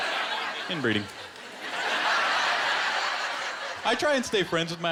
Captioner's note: laughter